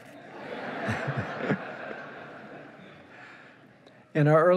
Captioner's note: laughing